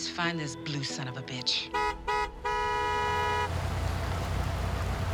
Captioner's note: horn honking